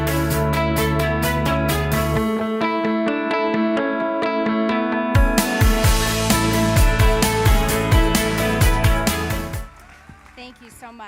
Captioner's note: applause